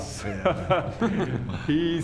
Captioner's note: smug laugh